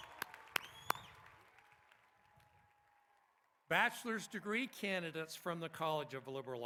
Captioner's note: applause